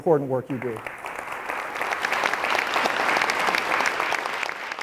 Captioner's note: audience applauds